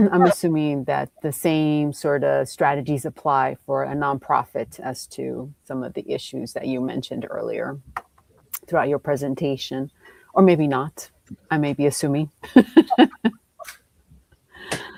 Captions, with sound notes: I'm assuming that the same sort of strategies apply for a nonprofit as to some of the issues that you mentioned earlier throughout your presentation, or maybe not. I may be assuming. [laughs]